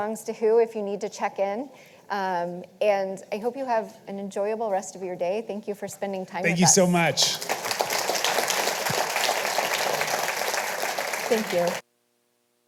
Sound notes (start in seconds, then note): 10.8 audience applauding